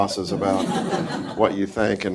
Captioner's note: audience laughs